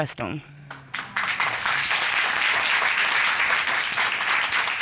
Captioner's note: applause